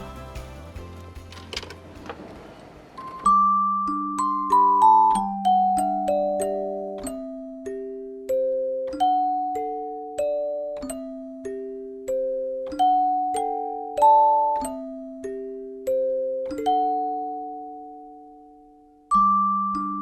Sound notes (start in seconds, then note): 0.0 upbeat music; 0.8 coin rustles; 3.1 bright gentle music